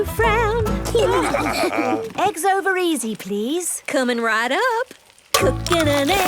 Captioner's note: laughing